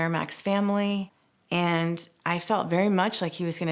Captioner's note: none